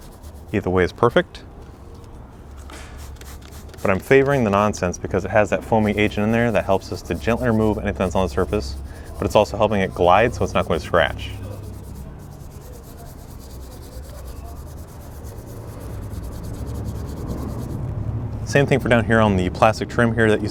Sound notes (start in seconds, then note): 2.9 bottle sprays; 11.6 brush scrapes